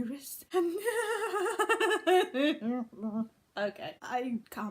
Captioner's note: nervous laughter